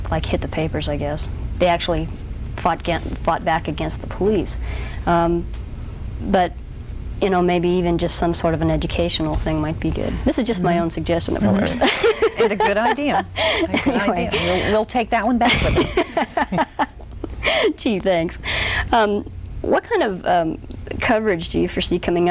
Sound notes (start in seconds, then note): 11.3 laughs; 15.4 laughs loudly